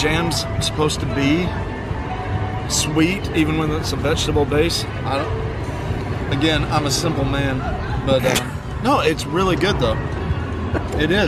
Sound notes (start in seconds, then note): 8.5 snickering